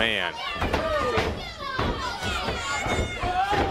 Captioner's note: crowd chatter